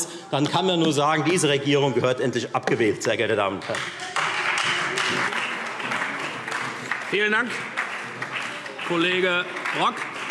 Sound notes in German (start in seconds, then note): 3.6 Beifall Freie Demokraten und vereinzelt SPD